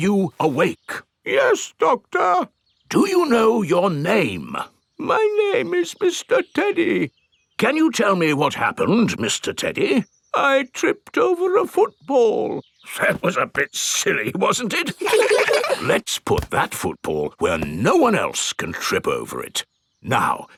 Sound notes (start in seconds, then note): 1.6 in teddy's voice; 3.4 in normal voice; 5.5 in teddy's voice; 7.9 in normal voice; 10.7 in teddy's voice; 13.5 in normal voice; 14.8 kids laugh